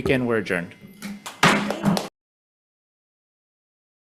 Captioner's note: crowd applauds